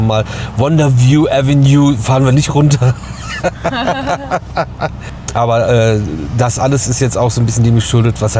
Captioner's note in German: gelächter